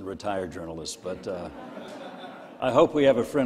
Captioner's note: crowd laughing